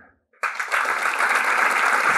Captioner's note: applause